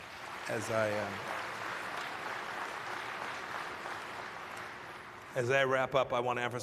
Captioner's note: applause